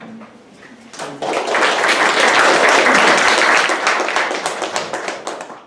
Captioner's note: audience clapping